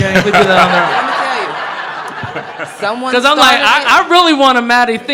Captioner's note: audience laughing